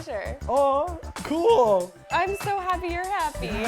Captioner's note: bell dings